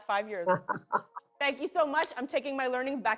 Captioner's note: laughs